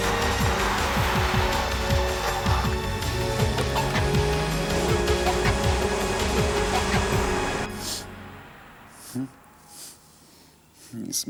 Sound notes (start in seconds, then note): 0.6 car engine revving; 9.0 Graham sniffing; 9.6 Graham chuckles